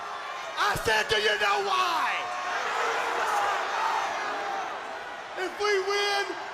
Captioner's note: crowd chatter